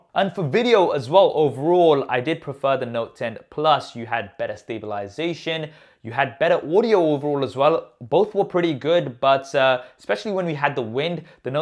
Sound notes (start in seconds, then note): none